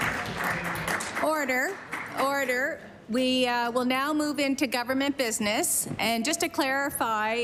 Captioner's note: applause